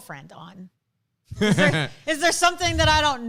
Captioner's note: laughs